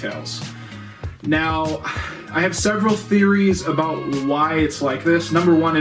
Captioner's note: sigh